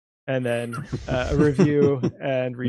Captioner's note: chuckling